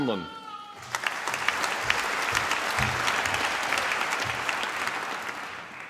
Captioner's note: applause